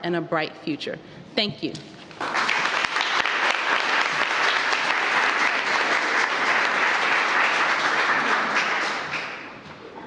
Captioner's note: applause